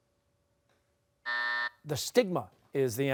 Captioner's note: buzzer